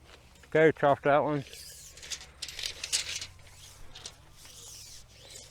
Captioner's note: measuring tape whirls